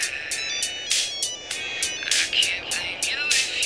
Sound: phone ringing

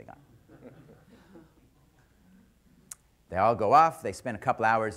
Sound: laughter

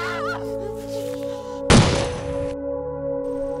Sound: screams; gunshot

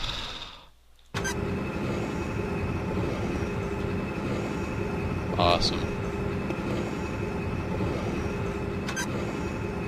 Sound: sighs

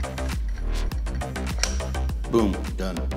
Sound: click

